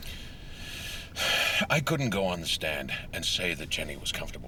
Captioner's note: sighs